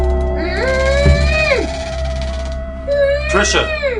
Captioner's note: Patricia moaning